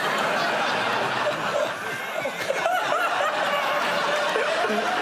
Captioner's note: laughter